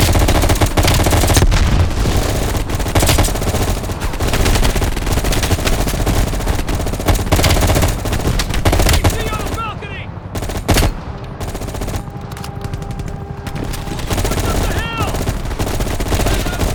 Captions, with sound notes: (gun fires) (speaking in foreign language) - What the hell?